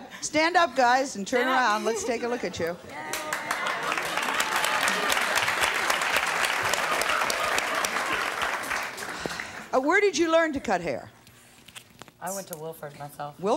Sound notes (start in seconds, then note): 3.0 audience cheers